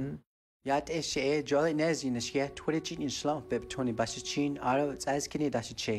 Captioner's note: speaking in foreign language